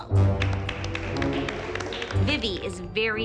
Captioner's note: applause